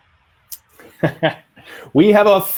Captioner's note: laughing